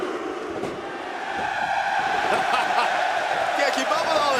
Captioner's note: crowd cheering